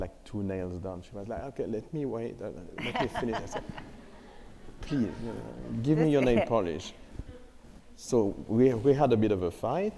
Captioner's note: laughter